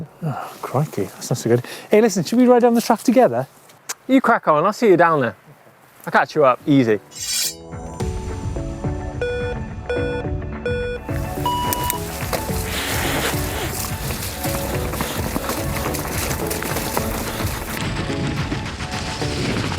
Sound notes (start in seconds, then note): 9.7 beeping; 13.1 soft electronic music